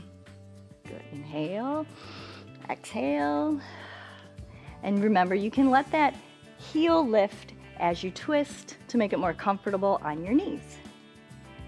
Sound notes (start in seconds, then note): 1.9 exhales; 1.9 inhales